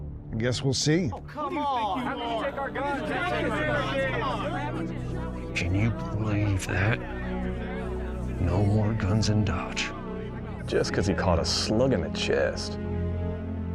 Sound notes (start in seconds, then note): 2.8 people angrily chatter